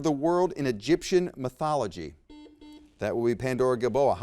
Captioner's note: buzzer beeps